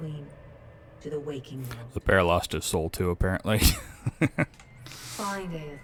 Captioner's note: laughs